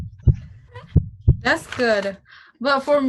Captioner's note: heart beating